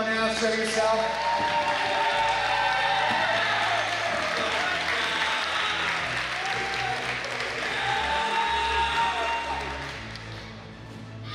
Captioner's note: cheering